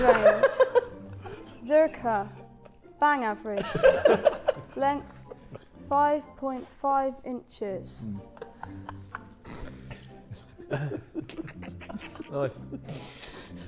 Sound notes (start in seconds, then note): 3.5 Sidemen laughing; 8.0 Sidemen laughing